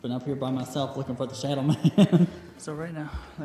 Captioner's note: laughs